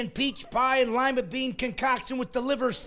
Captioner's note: laughing